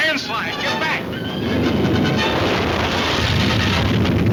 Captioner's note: crashing